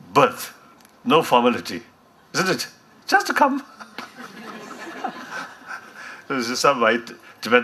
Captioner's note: much laughter from HHDL